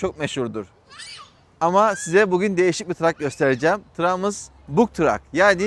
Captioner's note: çocuk bağırma sesi